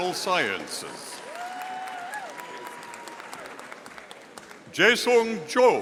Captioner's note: audience applauding